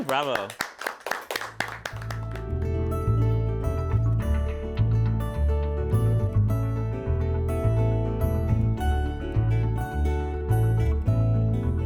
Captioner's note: applause